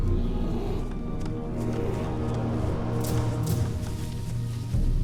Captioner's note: growling continues